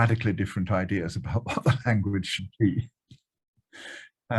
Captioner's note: chuckles